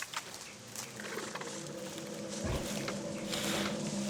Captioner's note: growling